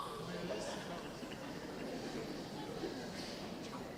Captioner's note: audience chatting